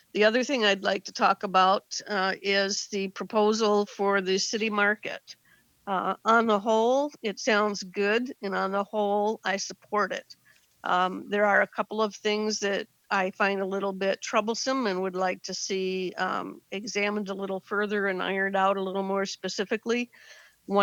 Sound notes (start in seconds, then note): none